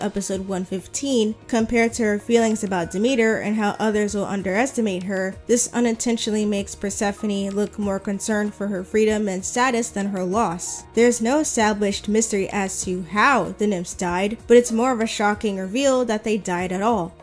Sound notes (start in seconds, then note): none